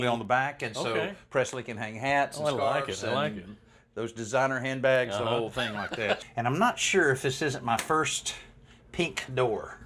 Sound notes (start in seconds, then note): 5.6 chuckles